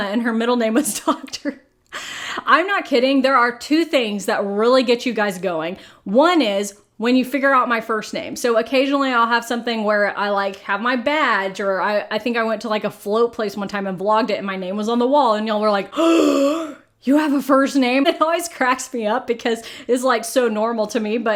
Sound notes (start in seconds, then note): 15.9 gasping